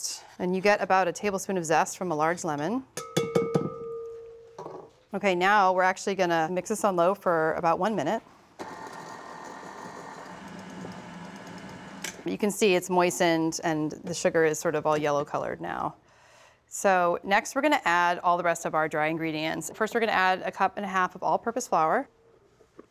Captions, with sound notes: and you get about a tablespoon of zest from a large lemon. Okay, now we're actually going to mix this on low for about one minute. (mixer whirring) You can see it's moistened and the sugar is sort of all yellow-colored now. So next, we're going to add all the rest of our dry ingredients. First, we're going to add a cup and a half of all-purpose flour,